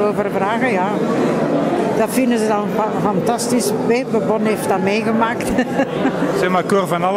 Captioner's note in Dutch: lacht